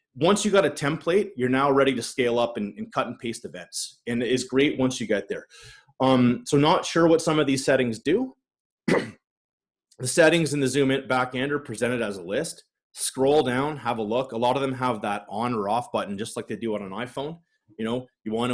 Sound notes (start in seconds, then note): 8.8 coughs